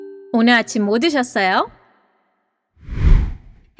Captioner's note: says something in korean